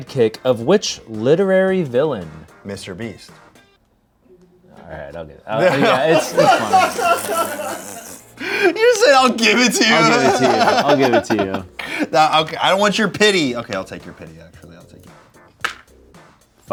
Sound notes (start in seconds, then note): 7.1 crew laughs; 10.1 laughs